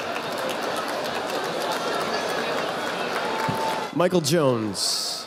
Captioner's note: audience applauding